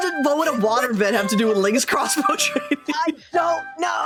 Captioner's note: laughing